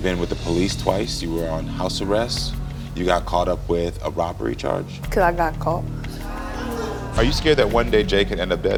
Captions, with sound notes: - You've been with the police, twice. You were on house arrest. You got caught up with a robbery charge. - 'Cause I got caught. (crowd exclaiming) - Are you scared that one day J could end up dead?